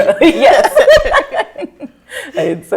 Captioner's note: all laugh